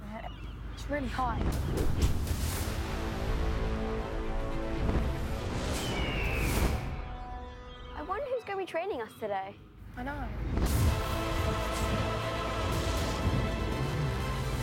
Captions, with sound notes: It's really high. (dramatic music) (eagle screeching) - I wonder who's gonna be training us today. - I know. (epic music)